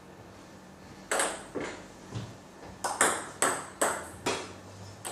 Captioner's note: balls ping pong hitting continues